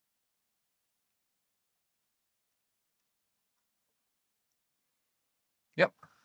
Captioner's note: silence